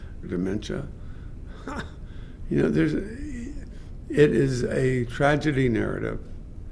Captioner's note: laughs